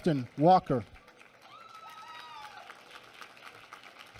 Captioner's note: applause